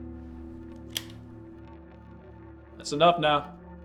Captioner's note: gun cocking